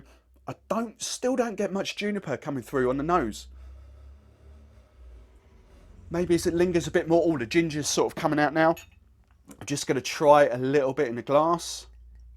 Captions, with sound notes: I still don't get much juniper coming through on the nose. (inhaling strongly) Maybe it's it lingers a bit more, oh the ginger's sort of coming out now. I'm just gonna try a little bit in a glass.